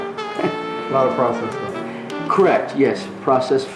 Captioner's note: voiceover